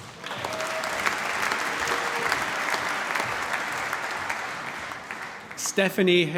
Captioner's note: cheering, applause